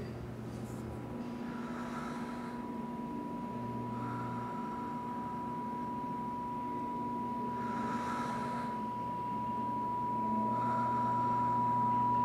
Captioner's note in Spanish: pitido